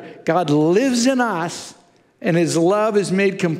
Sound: none

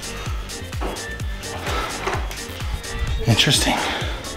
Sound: breathes loudly

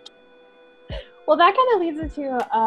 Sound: laughing

